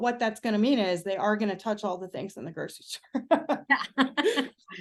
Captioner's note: audible laughter